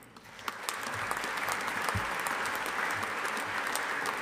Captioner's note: audience applauding